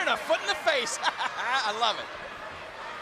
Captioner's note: laughs